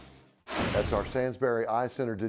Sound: whooshing

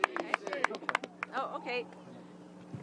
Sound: applause

